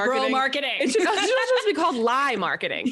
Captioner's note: laughs